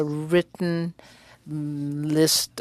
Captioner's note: speaking French